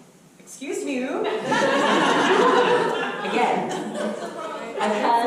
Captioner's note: audience laughter